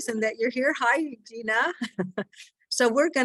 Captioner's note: laughing